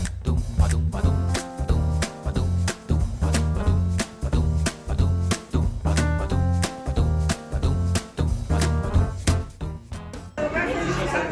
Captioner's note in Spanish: ruido de gente en el restaurant